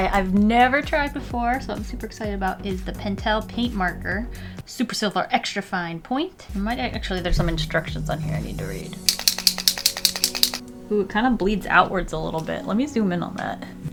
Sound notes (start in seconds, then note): 9.0 ball in pen shaking inside of barrel